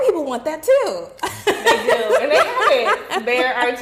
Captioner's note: laughing